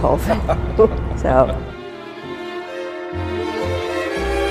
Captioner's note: laughs